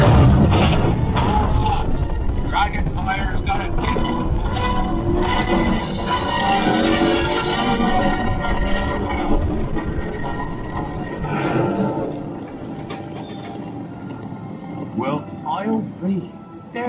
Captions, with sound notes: Hold on, dragon fire's got a kick. (orchestral music) (brakes hissing) Well, I'll be.